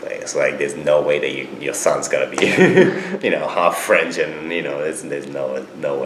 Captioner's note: laughs